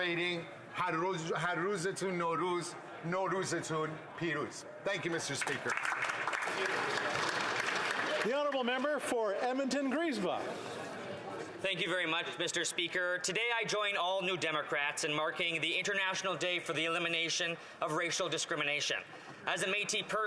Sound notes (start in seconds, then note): 7.3 speaking alternate language